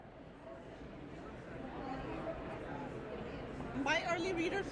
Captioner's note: background chatter